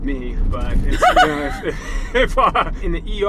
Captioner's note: laughs